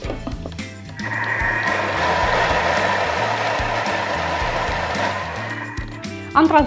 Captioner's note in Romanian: zgomotul procesorului